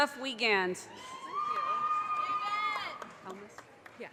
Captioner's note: audience cheers and applause